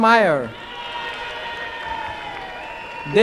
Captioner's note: applause and cheering